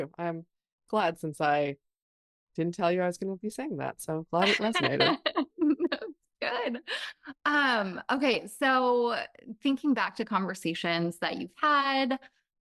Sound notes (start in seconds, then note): 4.4 laughs